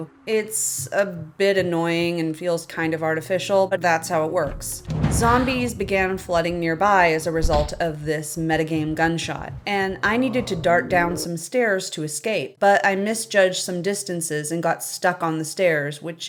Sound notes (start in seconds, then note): 4.0 drum alert, GRRRARRR; 9.2 whack